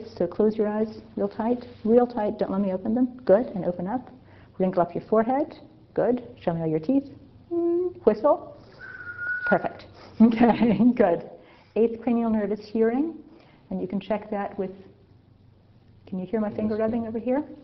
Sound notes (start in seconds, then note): 8.7 whistle